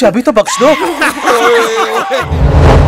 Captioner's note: Everyone laughing